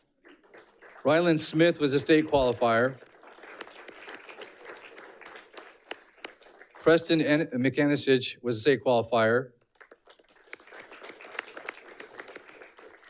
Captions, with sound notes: Ryland Smith was a state qualifier. (audience clapping) Preston McAninch was a state qualifier. (audience clapping)